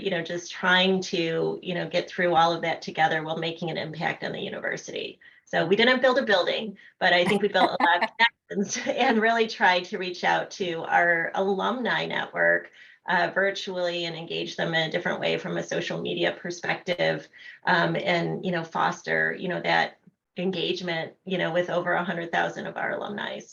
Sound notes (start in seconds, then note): 7.2 laughter